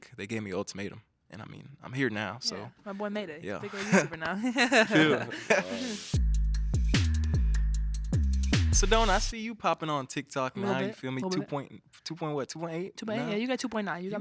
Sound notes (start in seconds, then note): 4.4 laughing; 6.4 upbeat hip hop music